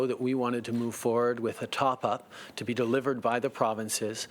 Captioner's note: speaking French